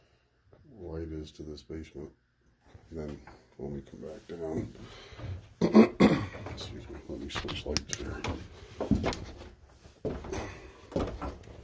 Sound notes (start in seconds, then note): 5.6 coughs